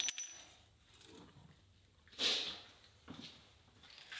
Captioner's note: tools clinking